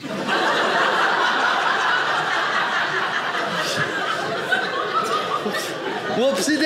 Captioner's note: audience laughing